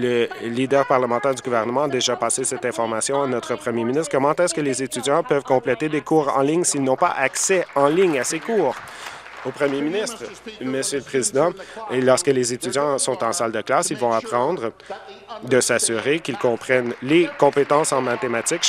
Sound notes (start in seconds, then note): 10.3 applause